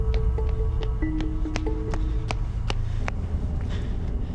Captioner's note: footsteps clinking; tense music